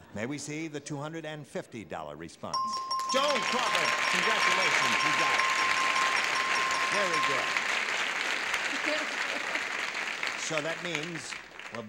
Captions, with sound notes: May we see the $250 response? (ding) (applause) - Joan Crawford. Congratulations, you got it. Very good. - Good. - So that means --